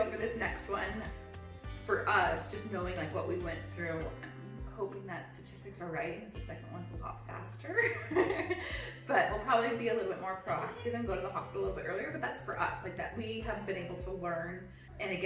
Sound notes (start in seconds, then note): 7.9 laughs